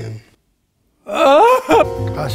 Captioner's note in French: Pleure